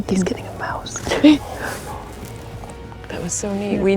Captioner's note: chuckles